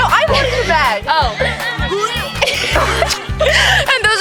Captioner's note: puke noises